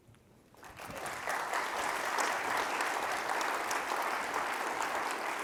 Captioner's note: audience claps